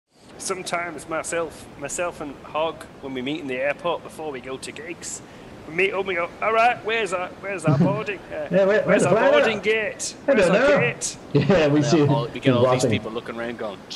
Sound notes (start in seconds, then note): 0.2 Yorkshire accent; 6.4 more Yorkshire accent; 8.5 Yorkshire accent